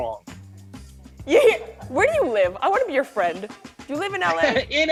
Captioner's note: laughs